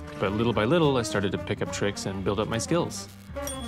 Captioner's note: electricity crackles